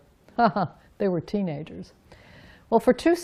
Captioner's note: laughs